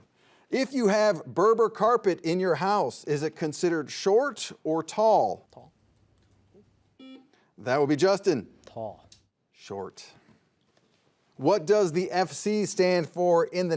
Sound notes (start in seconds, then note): 7.0 buzzer buzzes